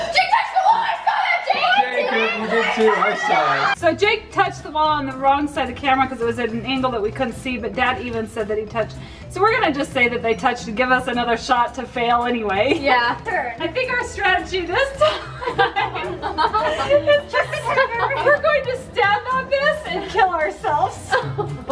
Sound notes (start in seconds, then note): 14.7 girls laugh